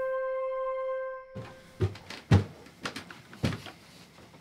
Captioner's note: sound of somebody walking up stairs